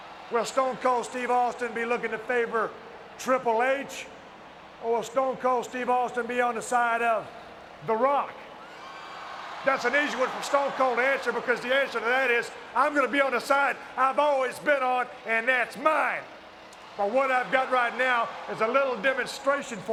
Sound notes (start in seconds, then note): 8.6 audience cheering